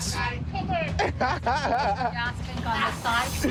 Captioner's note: laughs